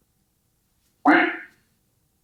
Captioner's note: quack sound